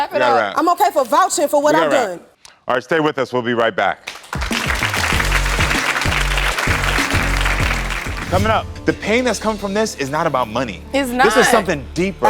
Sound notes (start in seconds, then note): 4.0 applause; 4.3 upbeat music